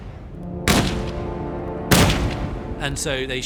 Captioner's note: gun cocks